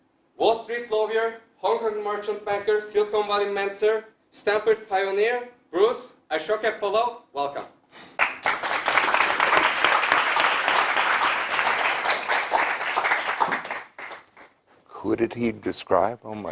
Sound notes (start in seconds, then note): 8.2 applause